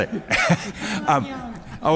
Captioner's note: laughter